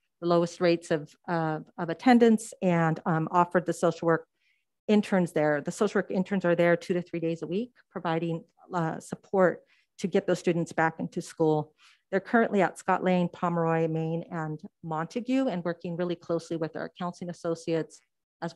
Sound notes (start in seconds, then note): none